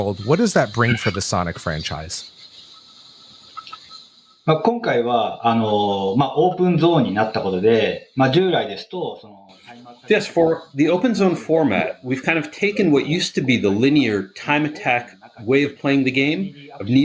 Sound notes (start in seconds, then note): 6.4 speaking japanese